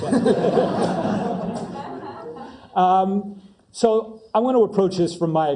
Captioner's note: laugh